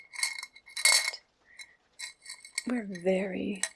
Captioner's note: metallic clicking